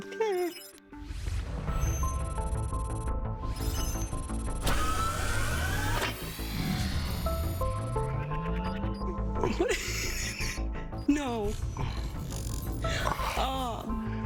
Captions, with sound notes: - Okay. (machine whirring) What? No. Ah...